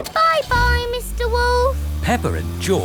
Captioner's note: engine starts